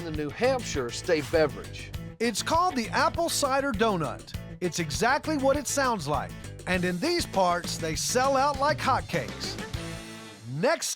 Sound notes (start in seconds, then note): none